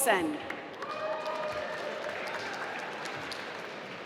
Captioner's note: applause